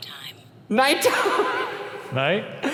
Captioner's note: laughing